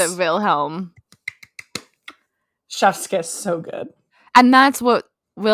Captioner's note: clap